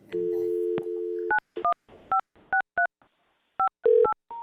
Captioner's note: phone dial tone